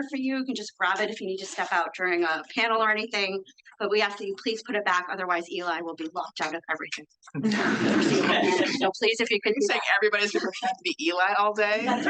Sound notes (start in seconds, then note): 7.4 attendees laugh